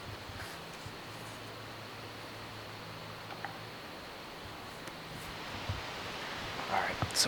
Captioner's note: wind